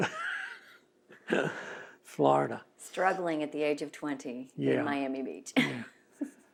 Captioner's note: laughs